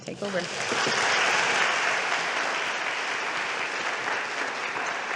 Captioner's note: audience applauding